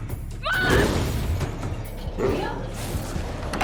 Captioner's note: snarling